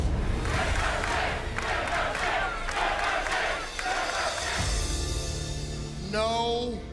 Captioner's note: crowd cheering